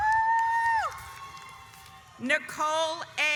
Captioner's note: yells